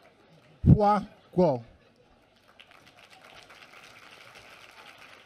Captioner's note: applause